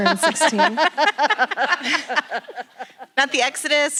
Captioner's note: laughter in room